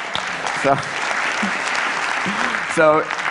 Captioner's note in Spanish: Aplausos